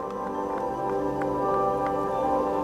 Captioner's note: applause